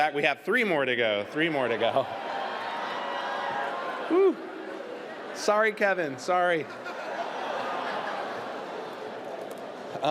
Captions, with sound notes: We have three more to go, three more to go. (AUDIENCE LAUGHS, CHEERS) Whew! Sorry, Kevin. Sorry.